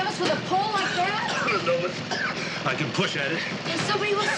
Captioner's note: coughing